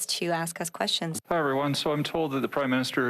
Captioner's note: speaking French